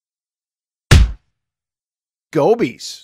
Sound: punch sound

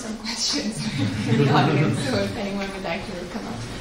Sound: laughs

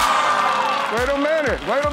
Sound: cheering

